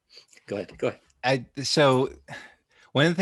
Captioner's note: laughs